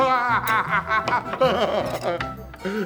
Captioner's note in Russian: смех